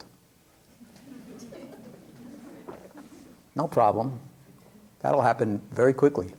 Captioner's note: laughter